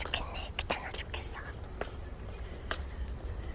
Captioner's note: whispering